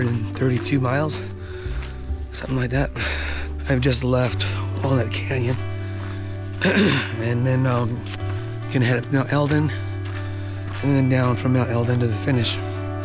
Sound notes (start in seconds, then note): 6.6 clearing throat